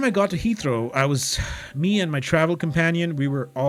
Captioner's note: sigh